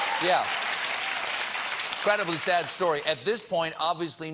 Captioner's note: applause